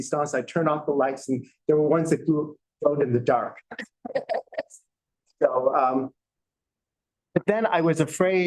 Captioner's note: laughter